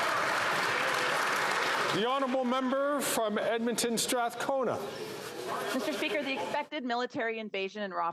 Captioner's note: some Applause